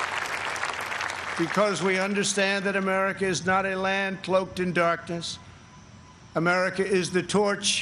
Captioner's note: applause